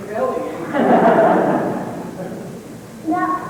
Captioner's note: laughter